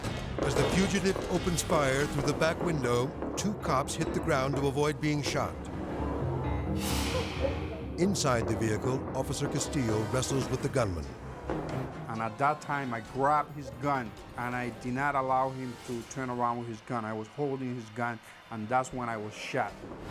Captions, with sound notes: As the fugitive opens fire through the back window, two cops hit the ground to avoid being shot. (tense music) Inside the vehicle, Officer Castillo wrestles with the gunman. (tense music) (gunshot popping) - And at that time, I grabbed his gun, and I did not allow him to turn around with his gun. I was holding his gun and that's when I was shot.